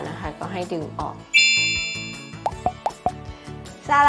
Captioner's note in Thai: เสียงเอฟเฟกต์